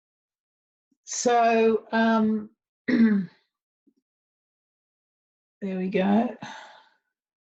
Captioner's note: clears throat